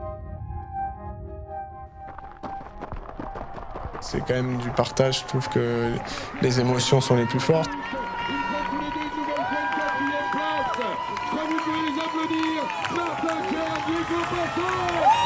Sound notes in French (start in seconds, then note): 7.8 acclamation; 10.5 applaudissements; 13.1 acclamation